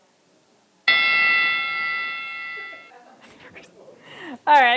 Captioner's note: bell rings